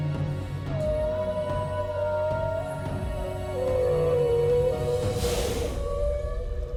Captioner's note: echoing whale calls